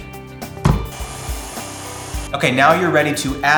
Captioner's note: mixer noises